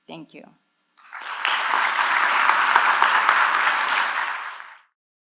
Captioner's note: applause